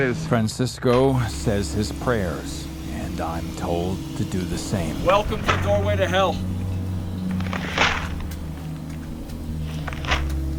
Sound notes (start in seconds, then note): none